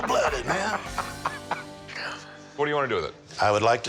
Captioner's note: laughter